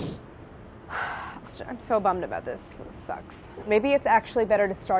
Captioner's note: sighs